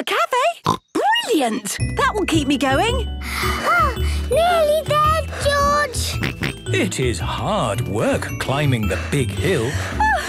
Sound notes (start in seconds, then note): 0.6 snorts; 3.3 panting; 6.2 snorts